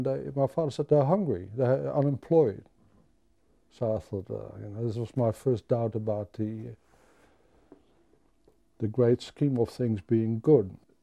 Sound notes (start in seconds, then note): none